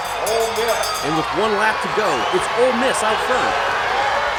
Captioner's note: PA Voiceover